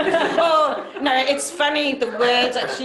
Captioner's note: laughter